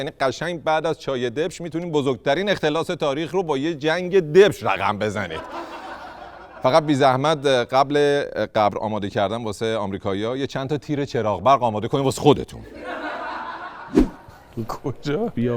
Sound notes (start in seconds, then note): 5.2 laughter; 12.6 laughter